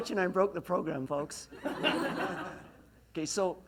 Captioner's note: laughs